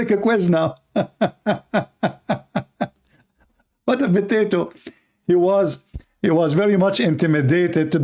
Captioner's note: Ketawa